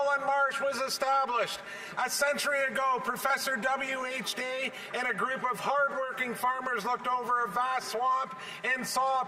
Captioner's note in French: voix de l'interprète